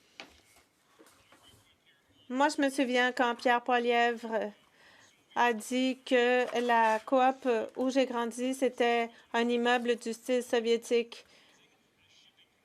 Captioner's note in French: voix de l'interprète